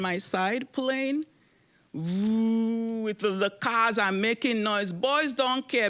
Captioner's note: humming